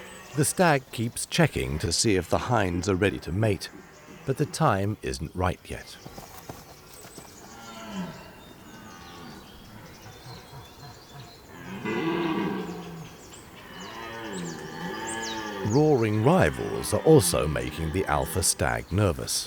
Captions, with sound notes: The stag keeps checking to see if the hinds are ready to mate, but the time isn't right yet. [deer roaring] Roaring rivals are also making the alpha stag nervous.